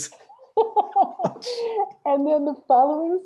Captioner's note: both laugh